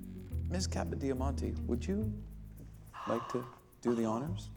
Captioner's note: gasps